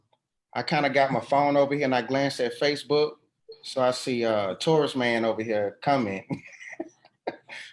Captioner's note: laughs